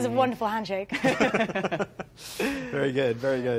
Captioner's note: both laughing